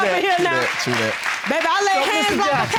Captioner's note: audience applauding